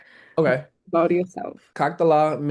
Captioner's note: speaking russian